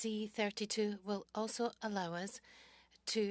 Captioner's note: speaking French